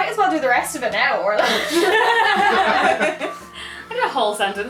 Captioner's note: laughter